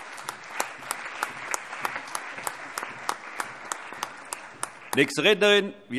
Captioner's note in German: Allgemeiner Beifall